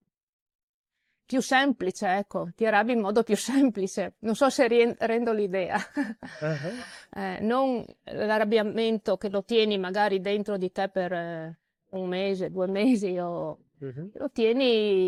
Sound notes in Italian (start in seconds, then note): 5.7 risate